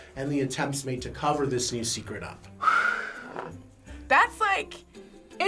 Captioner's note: exhales shakily